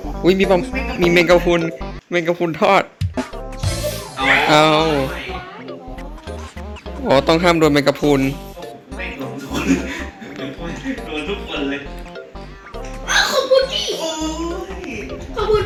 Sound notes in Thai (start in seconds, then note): 3.6 เสียงเอฟเฟคตบมุก; 8.9 เสียงหัวเราะ